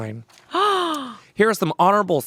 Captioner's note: gasps